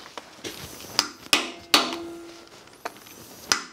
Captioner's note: metal blows